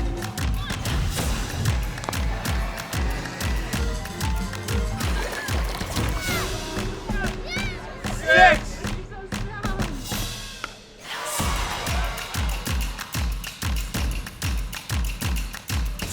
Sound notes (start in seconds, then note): 1.0 upbeat music continues; 5.0 child yells; 5.0 water sloshes; 10.7 bat cracks; 10.9 crowd cheers; 11.3 upbeat music continues